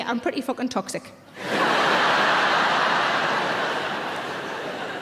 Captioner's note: audience laughs